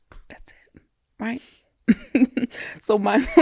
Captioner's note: laughs